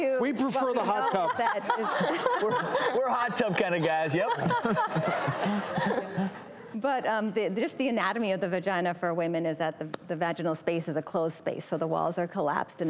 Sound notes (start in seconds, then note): 4.5 crowd laughter